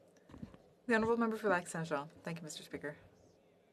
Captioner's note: speaking French